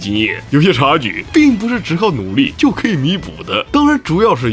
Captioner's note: effort